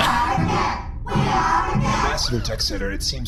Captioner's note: half-laughing